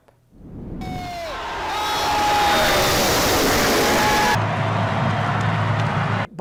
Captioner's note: car engines roaring and crowd cheering